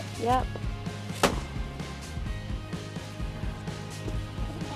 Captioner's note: balloons popping